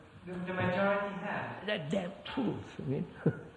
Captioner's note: laughs